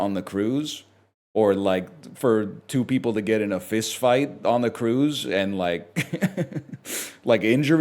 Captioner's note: chuckles